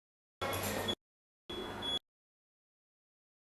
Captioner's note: beeping, hospital noises cut in and out